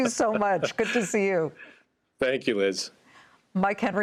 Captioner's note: laughter